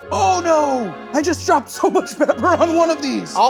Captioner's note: laughing